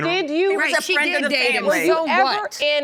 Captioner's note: all arguing